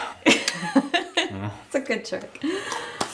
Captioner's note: laughs